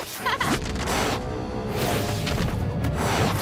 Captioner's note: laughs